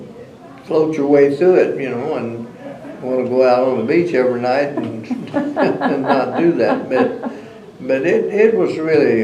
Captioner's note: laughter